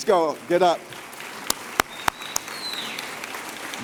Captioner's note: applause & Cheers